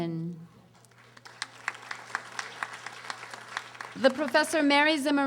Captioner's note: audience applauding